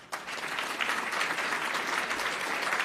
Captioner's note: applause